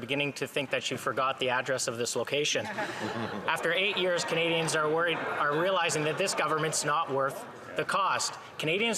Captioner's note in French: voix de l'interprète